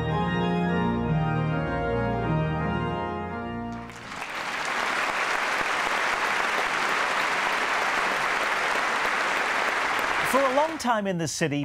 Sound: applause

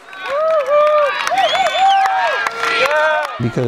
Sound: clapping, whistling

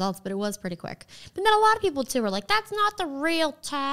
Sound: none

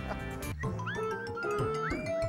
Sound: laughing

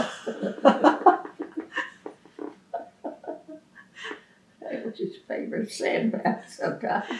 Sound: laughs

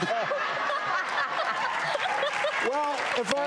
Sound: laughter; applause

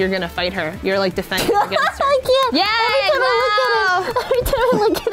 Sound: laughs

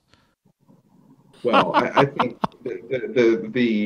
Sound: laughs

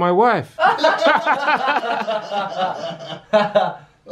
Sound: laughing

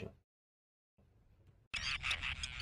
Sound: Forster’s tern colony calls

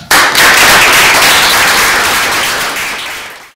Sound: applause

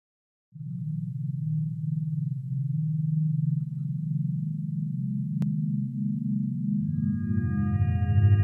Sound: electronically-generated sound begins; with very soft metallic ambience fading in; another ambience fades in a bit louder

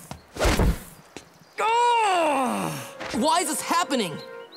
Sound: groaning

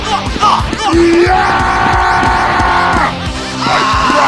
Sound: Peppino shouts; Scout screams

